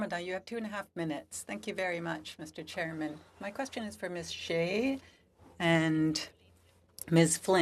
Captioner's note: speaking French